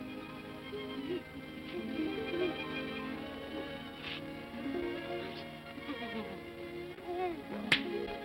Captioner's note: sentimental music; Scrooge sobs; claps hands together